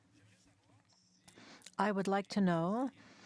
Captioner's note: speaking French